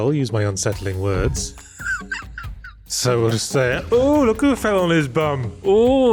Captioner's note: laugh